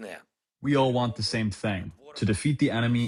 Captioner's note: through translator